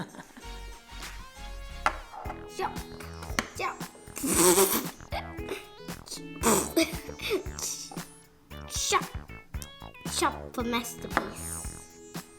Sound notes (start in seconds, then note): 4.1 laughing